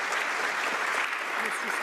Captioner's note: some Applause